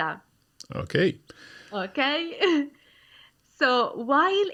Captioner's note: laughs